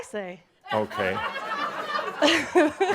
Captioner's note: giggles; some chuckles